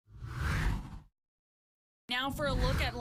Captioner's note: air whooshes